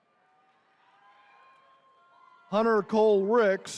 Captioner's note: attendees cheering